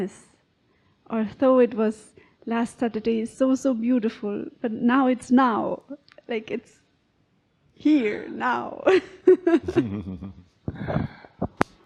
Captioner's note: laughing